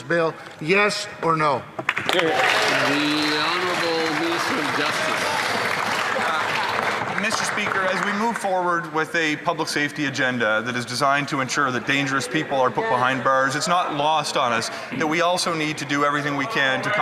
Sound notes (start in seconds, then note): 5.1 some Applause